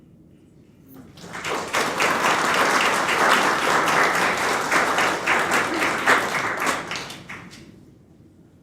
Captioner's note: applause